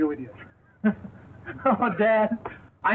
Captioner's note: laughs